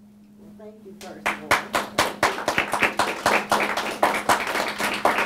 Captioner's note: audience applauding